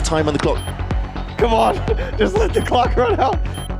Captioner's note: chuckling